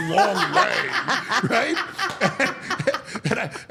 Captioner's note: all laughing